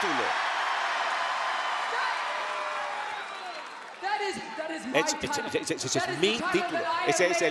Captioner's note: applause